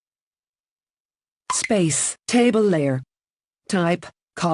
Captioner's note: plock